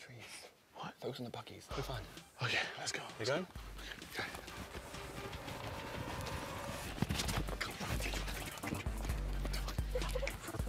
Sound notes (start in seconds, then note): 5.5 whispering